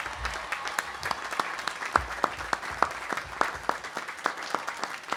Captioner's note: audience applauding